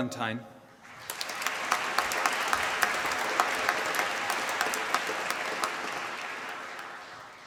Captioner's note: applause